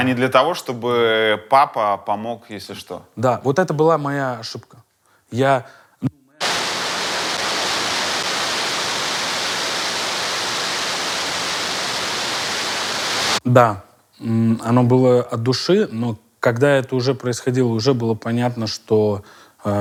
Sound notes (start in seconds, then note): 6.4 sudden continuous static noise; 12.3 static noise stops